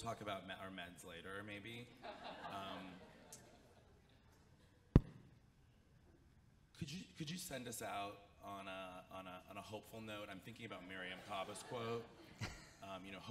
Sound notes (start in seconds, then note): 2.1 audience chuckles; 4.9 mic thuds